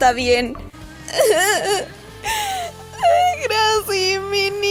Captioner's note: cries